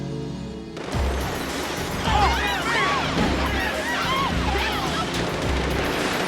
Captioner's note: gunshots ringing; people screaming